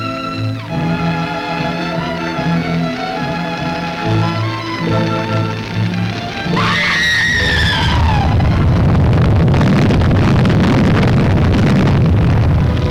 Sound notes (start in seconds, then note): 5.6 flames roar; 6.5 woman screams